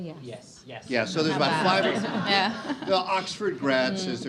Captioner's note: audience laughs